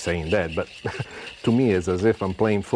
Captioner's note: chuckles